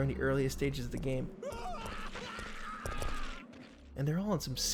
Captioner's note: pained Screams